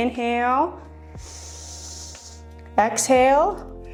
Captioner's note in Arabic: شهيق